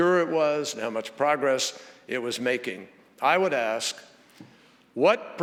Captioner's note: none